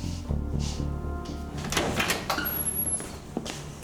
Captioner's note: door clicks open